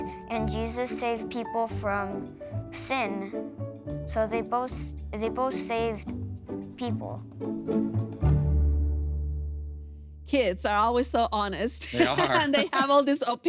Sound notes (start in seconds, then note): 7.4 upbeat music; 11.8 laughs